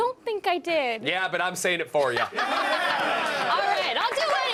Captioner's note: laughter